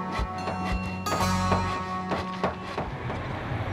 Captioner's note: construction noise